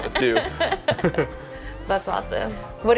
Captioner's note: both laughing